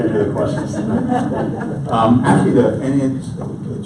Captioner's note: audience laughs